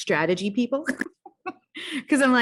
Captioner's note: laughs